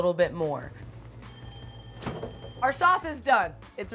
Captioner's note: bell rings